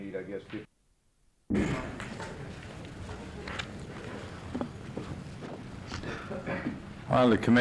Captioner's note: chairs scraping on floor, footsteps